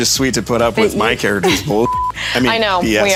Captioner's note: beep